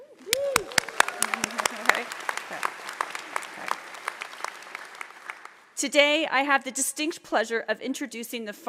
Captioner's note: applause